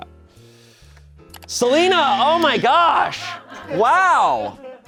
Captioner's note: buzzer blares; audience laughing